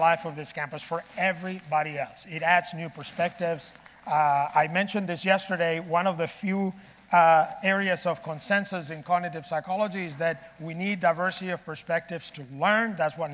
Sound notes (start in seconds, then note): none